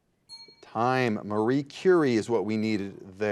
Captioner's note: bell dings